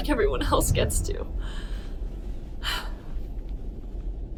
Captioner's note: sheets rustling; music fades; exhales